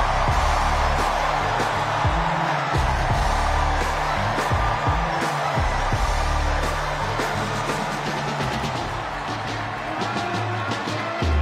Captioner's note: cheers and applause